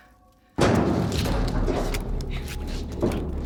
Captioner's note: loud banging